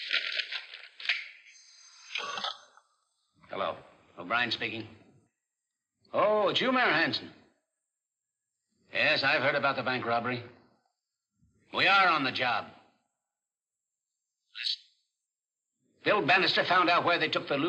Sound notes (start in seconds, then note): 1.5 phone rings